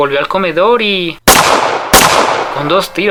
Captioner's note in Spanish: Dos disparos